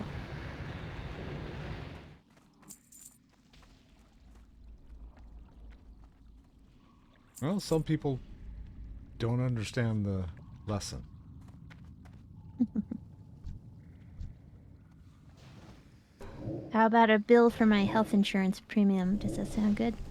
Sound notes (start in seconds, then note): 12.6 laughing